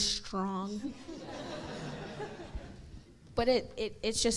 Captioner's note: crowd laughs